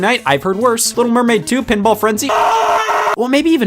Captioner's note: screaming